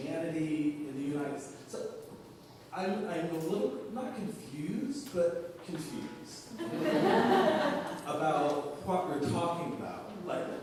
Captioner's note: laughter